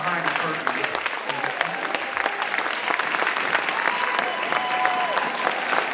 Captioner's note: audience cheering and applauding